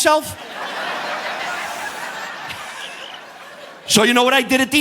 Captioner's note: audience laughing